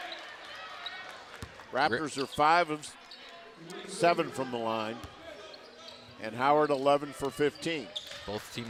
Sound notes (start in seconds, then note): 4.9 whistle